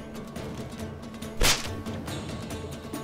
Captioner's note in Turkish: Kırbaç sesi